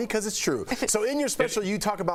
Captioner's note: laughter